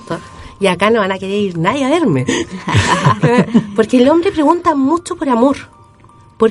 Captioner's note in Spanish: risas